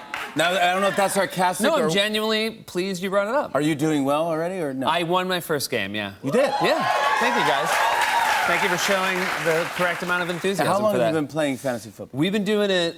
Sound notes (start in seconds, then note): 6.4 cheers and applause